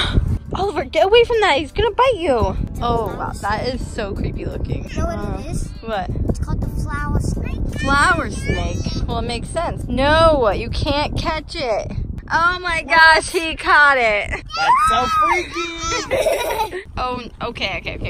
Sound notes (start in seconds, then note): 0.5 gasps; 14.4 screams; 15.0 laughing